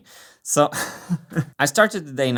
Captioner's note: chuckles